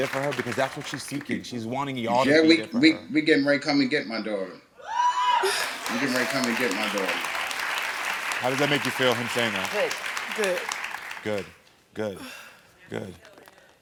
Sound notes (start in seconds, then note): 4.8 audience cheering; 7.4 audience applauding